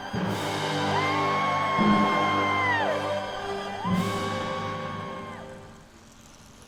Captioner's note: crowd cheering; orchestral music